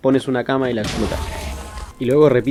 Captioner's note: explosion